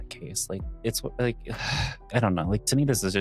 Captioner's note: sigh